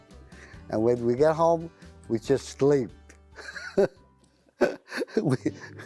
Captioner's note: laughs